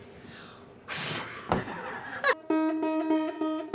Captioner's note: blows; laughs